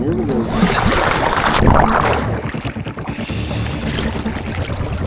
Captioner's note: water splashing; suspenseful music